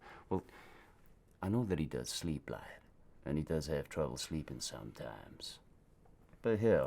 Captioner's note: none